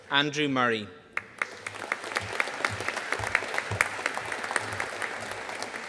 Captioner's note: audience applauding